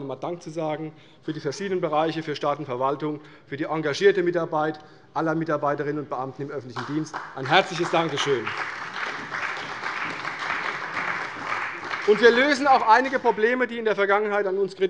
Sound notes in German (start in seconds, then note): 8.8 Beifall bei der CDU und dem BÜNDNIS 90/DIE GRÜNEN